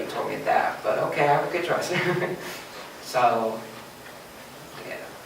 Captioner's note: laughs